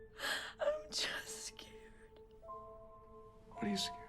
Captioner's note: sobs